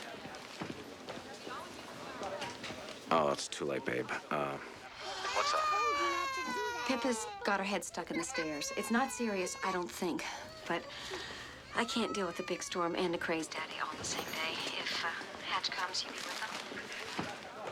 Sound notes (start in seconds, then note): 4.9 sighs